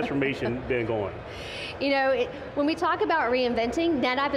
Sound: laughs

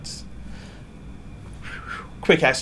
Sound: whistles gently

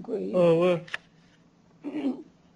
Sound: non-english speech

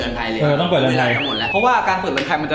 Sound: pat

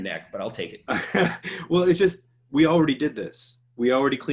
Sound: laughs

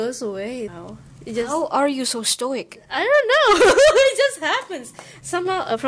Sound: ahuehuehuehue

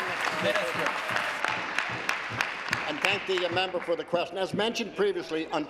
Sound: applause

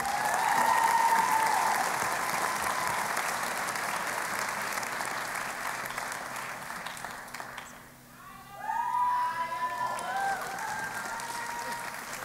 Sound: cheering and Applause

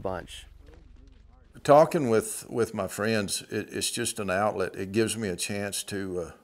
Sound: pat

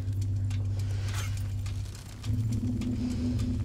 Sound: heavy breathing

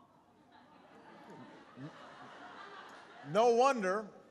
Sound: laughter

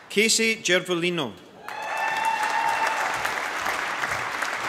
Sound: applause

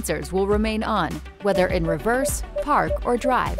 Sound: PDW beeping

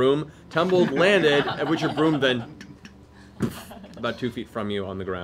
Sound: thud

